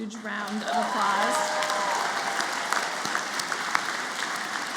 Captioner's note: applause